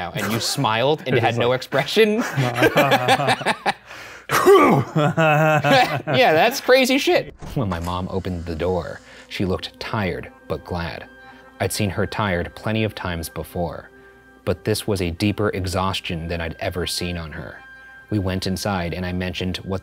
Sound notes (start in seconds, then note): 2.7 laughing; 4.4 grunts